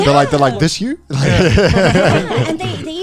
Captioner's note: all laughing